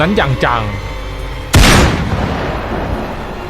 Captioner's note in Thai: เสียงปืน